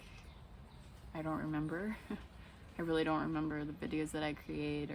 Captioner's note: laughs